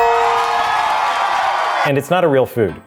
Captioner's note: crowd cheering